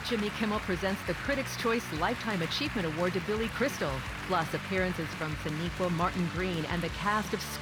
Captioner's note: applause